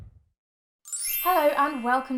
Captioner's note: chimes